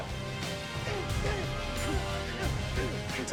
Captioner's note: both grunting